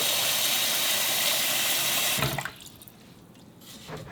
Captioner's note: water pours